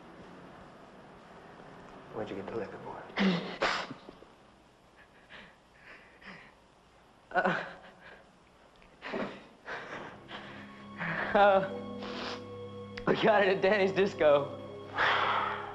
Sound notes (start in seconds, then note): 7.3 crying